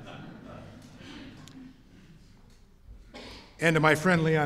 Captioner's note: laughter